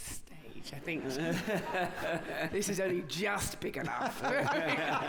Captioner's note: laughter